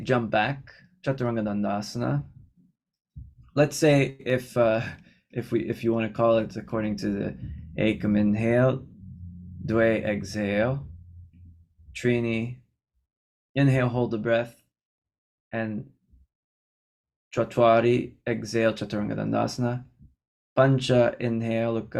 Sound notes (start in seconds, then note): 9.6 inhale; 10.3 exhale